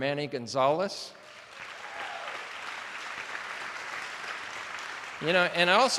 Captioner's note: attendees applauding